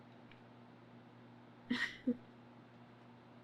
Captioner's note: laughs